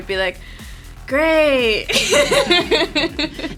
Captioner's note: unenthusiastically; laughs